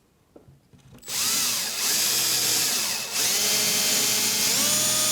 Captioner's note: power tool humming